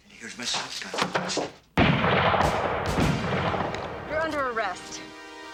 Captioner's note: gun firing